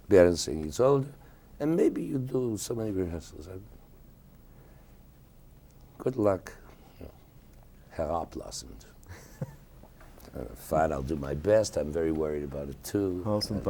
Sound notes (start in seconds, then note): 8.1 speaking a foreign language; 9.1 interviewer laughing